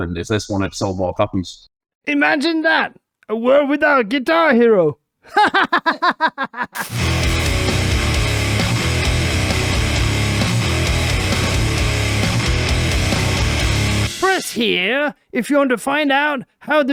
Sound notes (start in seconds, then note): 5.3 laughing; 6.8 heavy rock music